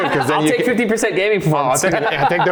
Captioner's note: laughs